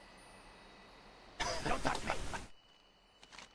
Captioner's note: laughs